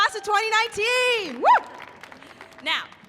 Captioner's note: audience applauding; screams